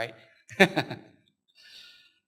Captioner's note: laughs